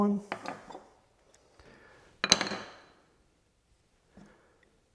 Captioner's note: chisel drops